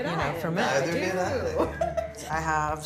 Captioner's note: laughs